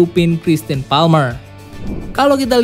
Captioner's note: transition sound